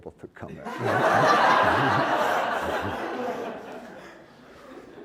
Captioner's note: laughter